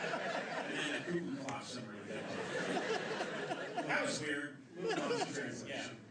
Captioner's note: imitates Feigned Laughter; laughter